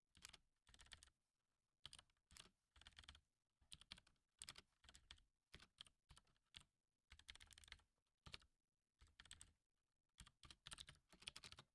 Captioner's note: typing